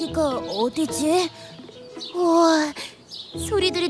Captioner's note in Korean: 짹짹, 새소리